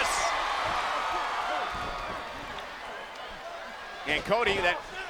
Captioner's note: crowd cheering; blows thudding